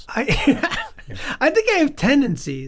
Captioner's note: Charlie laughs